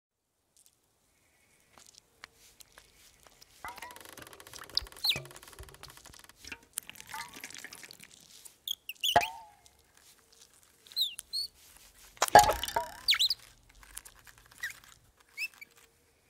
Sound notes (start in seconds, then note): 0.7 leaves rustling; 3.5 branch creaking; 4.6 birds chirping; 6.8 water trickling; 12.2 frantic chirping; 12.2 spring bouncing